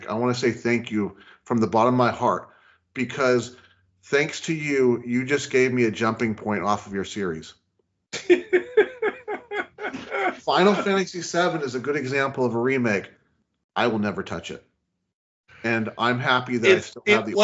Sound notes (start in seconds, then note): 8.1 laughing